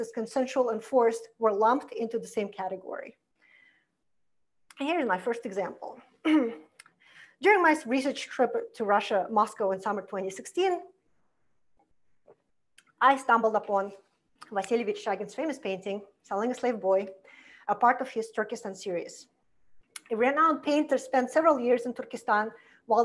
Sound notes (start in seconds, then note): 6.2 clears throat